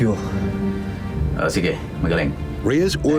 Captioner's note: speaking in foreign language